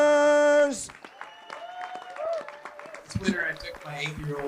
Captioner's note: audience applauds